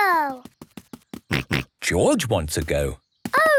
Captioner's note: snorts